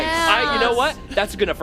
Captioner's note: laughs